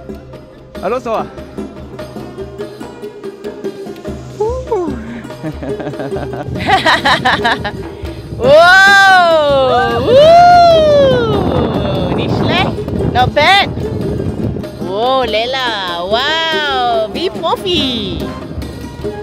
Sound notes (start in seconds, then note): 0.7 speaking German; 5.2 laugh; 10.0 speaking German